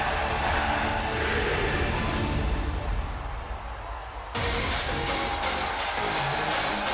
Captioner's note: crowd chants, "nxt"